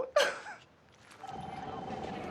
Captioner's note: sobbing